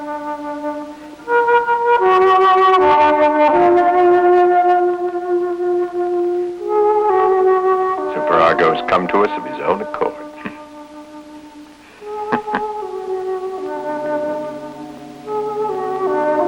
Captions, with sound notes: - Superargo's come to us of his own accord. (chuckles) (eerie music)